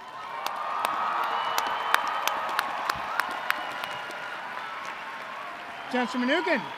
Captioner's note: applause